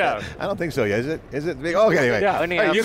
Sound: laughs

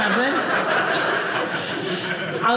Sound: audience laughing

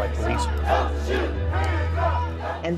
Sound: crowd

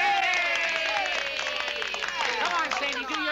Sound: applause

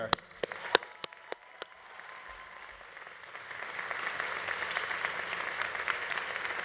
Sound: audience applauding; audience cheering

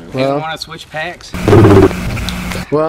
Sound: growl

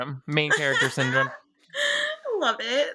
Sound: laughing

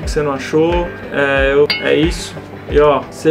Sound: ding!

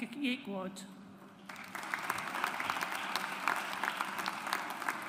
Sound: audience applauds

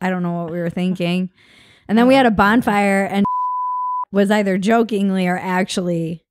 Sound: beep

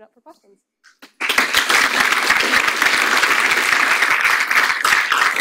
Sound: audience applauds

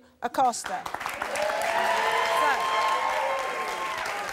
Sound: audience clapping

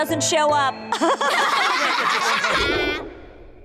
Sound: laughing

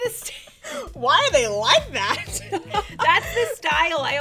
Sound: laughs

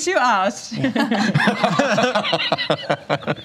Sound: laughter

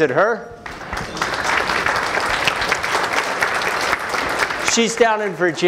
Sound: applause

